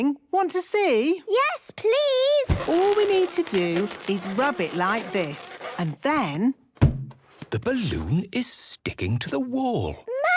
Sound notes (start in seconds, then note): 2.4 balloon rubbing; 6.5 balloon echoes